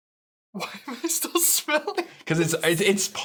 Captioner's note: laughing